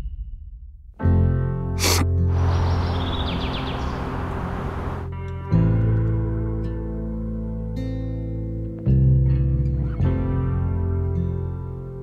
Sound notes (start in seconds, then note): 1.4 melancholy music; 1.8 sniffles